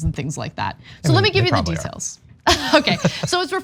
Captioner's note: laugh